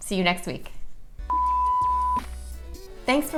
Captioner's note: beep